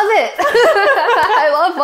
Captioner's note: both laughing